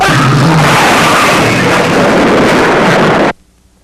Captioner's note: man screams